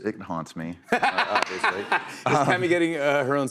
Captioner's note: laughs